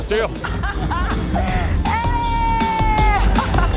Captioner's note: laughter